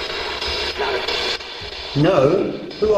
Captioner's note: static buzzing